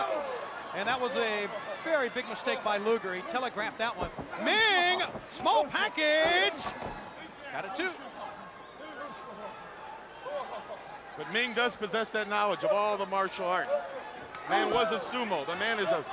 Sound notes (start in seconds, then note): 9.7 crowd chatter